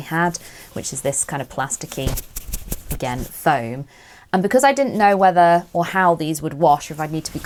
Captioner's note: scratchy plastic noises